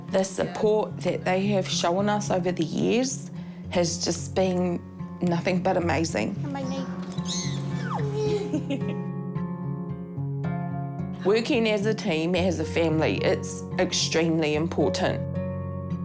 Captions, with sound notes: The support they have shown us over the years has just been nothing but amazing. Come by me. - (SHRIEKS) - (CHUCKLES) Working as a team, as a family, it's extremely important.